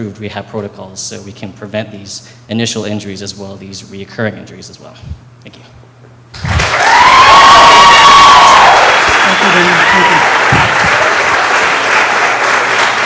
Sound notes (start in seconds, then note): 6.4 audience claps and cheers